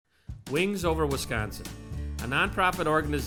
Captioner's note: voiceover